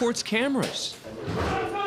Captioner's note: scuffling